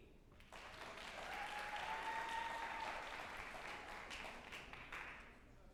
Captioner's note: group applauding and cheering